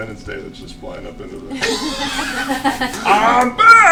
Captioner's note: laughter